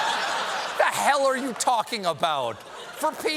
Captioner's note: laughter